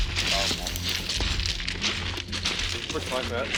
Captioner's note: officers chattering